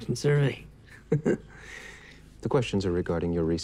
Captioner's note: chuckles